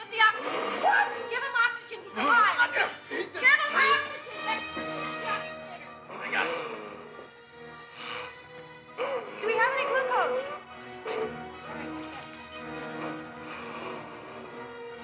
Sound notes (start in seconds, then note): 6.2 Donald gasping; 10.8 dramatic music